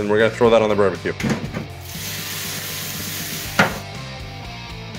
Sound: meat sizzling; upbeat rock music

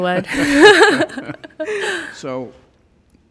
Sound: laughing

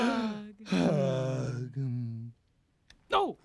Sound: both sigh

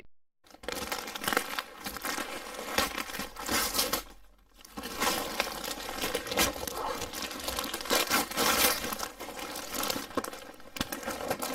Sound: present unwrapping

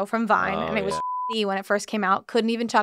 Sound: beep

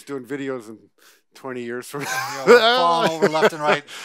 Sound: laughs

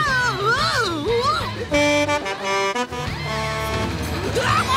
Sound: honking

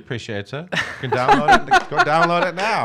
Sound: laughing

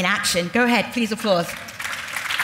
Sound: audience applauds

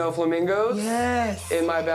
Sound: flamingos squawk

